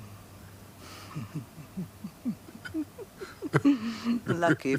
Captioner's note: they chuckle